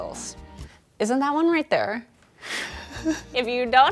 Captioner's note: chuckles